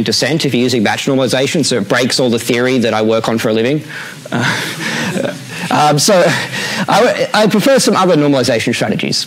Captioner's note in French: rires